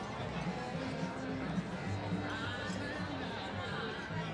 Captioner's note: chatter